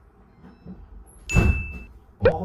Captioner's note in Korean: 문 닫히는 소리!